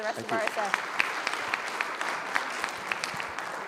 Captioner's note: audience applauds